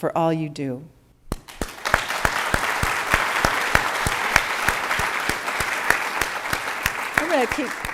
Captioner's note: applause